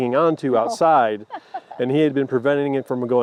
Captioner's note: laughs